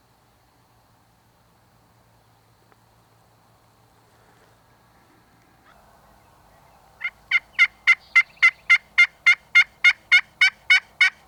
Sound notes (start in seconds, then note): 7.0 turkey calling